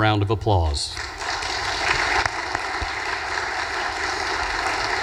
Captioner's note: audience applause